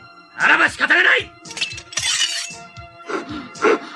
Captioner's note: SFX: sword unsheathes